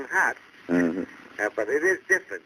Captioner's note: on phone